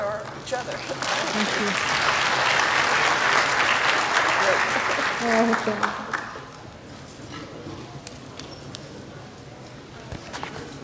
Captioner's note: applause